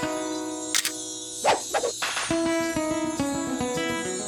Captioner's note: upbeat music; camera clicks; upbeat music fades